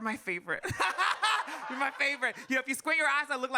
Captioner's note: audience laughs